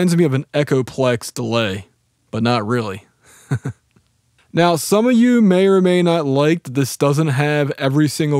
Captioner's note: laughs